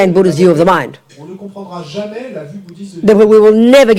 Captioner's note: audience member speaks in French